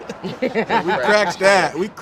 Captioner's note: all laugh